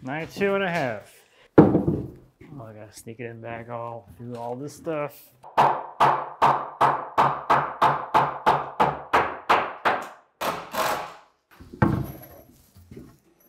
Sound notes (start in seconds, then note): 5.5 hammering; 10.5 driver whirring